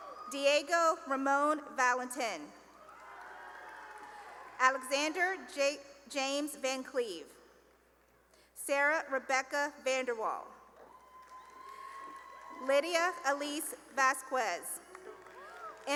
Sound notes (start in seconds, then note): 0.0 cheering; 2.7 cheering and applause; 10.8 cheering and applause; 14.8 cheering and applause